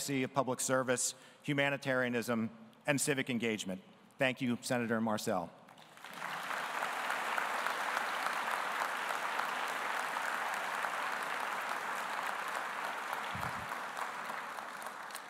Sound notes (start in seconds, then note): 6.0 audience applauding